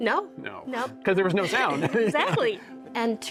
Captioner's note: chuckles